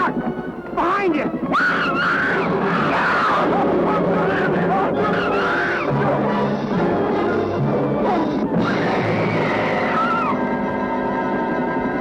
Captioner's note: scream